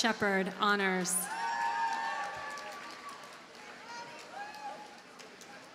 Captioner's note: audience cheers and applauds